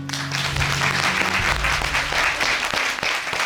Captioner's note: audience applauding